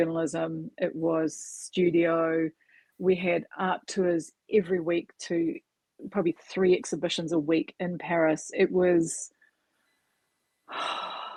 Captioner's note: sigh